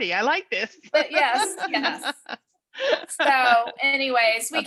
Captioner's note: laughs